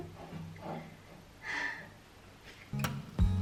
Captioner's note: sigh